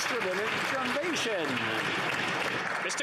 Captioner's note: some Applause